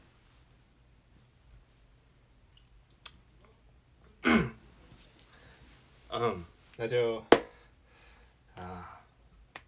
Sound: cough

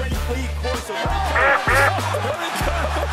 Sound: duck quacking

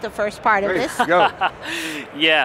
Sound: laughing

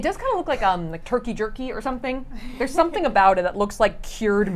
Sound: chuckles

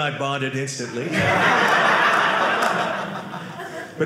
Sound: audience laughing

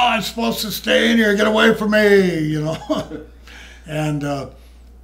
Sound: laughs

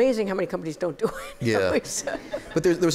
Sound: laughter

